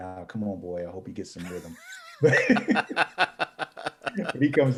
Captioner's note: both laughing